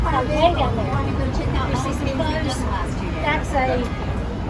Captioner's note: overlapping chatter